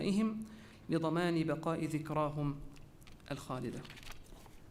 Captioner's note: repeated in Arabic